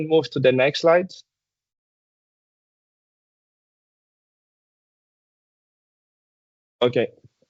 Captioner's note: silence